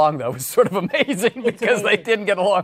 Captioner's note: laughing